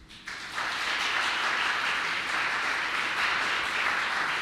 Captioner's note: applause